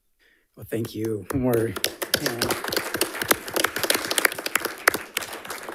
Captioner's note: audience applauding